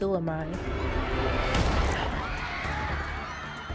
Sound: people screaming; gun shooting

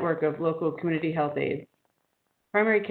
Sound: audio drop

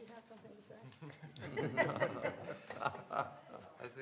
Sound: laughter

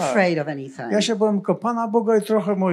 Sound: foreign language

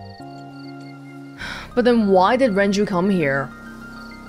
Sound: exhales

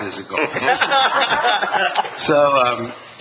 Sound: laughs

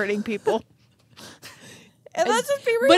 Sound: chuckling

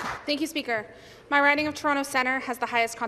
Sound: some Applause

